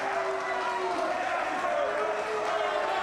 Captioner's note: crowd boos